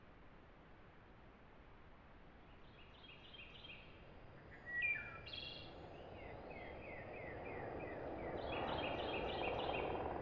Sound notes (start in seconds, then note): 2.9 morning birds sing, morning wind blows